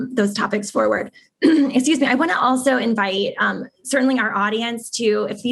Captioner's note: cough